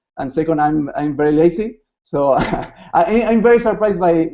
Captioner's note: laughs